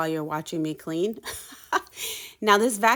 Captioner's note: chuckles